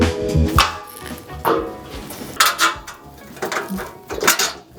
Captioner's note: metal clanking